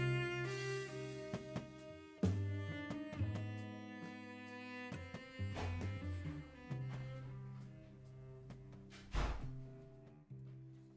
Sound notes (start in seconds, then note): 6.3 door opening; 8.8 door closing